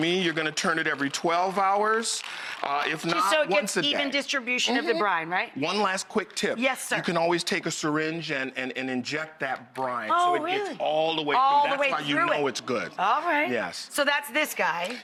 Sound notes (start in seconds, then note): none